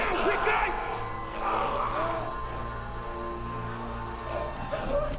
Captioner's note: groaning, gurgling